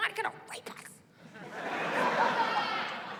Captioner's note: laughter